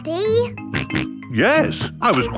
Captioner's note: snorts